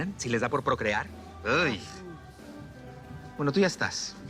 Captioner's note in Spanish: Exclamación de asco